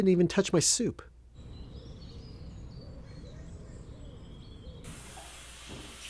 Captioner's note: birds chirping